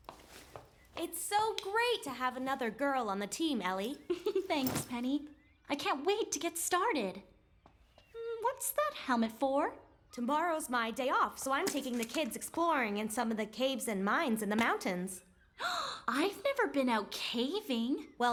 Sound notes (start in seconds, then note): 4.0 chuckles; 15.6 gasp